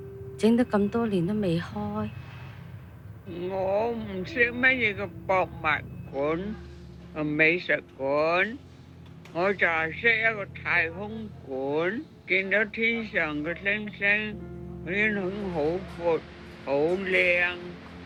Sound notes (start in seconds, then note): 0.0 contemplative piano music begins; 4.5 Cantonese